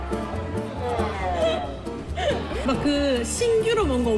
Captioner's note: sobbing